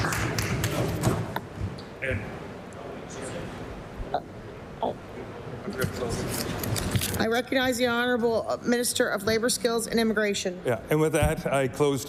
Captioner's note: applause